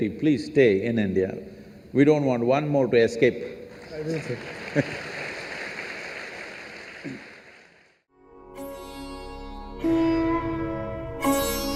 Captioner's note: applause